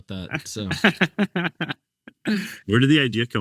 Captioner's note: laughing